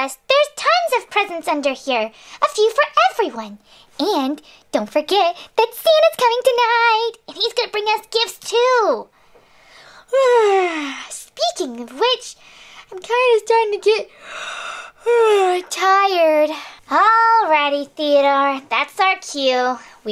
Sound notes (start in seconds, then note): 10.2 yawns; 15.6 yawns